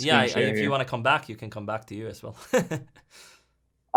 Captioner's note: chuckles